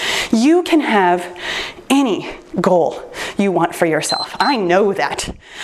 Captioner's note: timer beeps